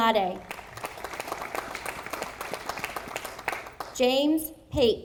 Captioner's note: audience applauding